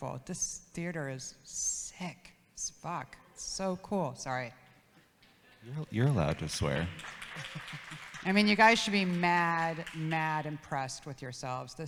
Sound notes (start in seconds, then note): 4.6 audience laughs; 5.9 audience claps